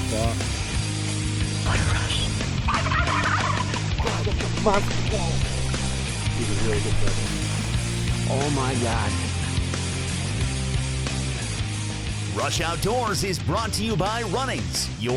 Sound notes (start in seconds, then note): 2.5 gobbling turkeys